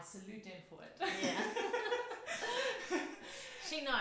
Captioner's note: laughs